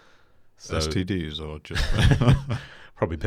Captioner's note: laughing